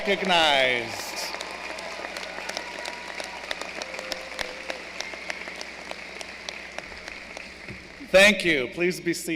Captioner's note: applause